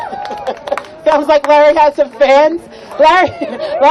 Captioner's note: laughing